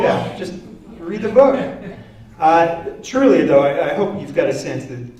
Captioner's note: laughter